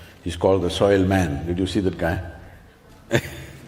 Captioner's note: laughs